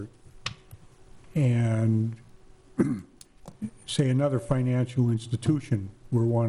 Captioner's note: clearing throat